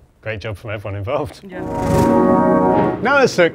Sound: musical whoosh

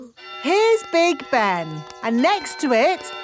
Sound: clock chimes

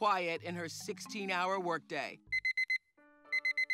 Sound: alarm beeps

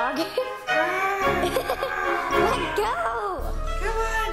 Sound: laughter

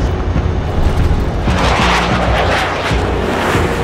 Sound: wind howling

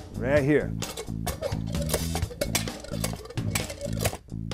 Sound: pump rattles

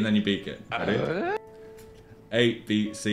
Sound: confused groaning sound effect

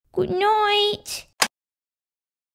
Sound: click!

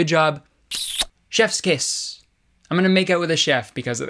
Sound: smooching

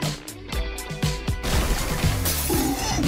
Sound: crash; glass smashing; melodic dinosaur grunting

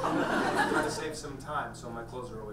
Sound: audience laughs

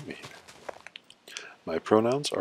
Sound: series of soft clicks

